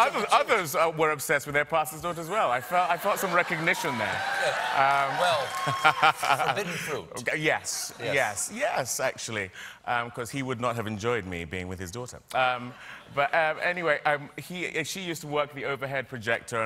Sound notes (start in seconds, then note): 7.3 cheers and applause